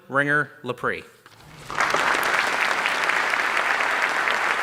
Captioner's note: applause